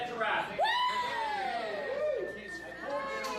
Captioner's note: crew cheering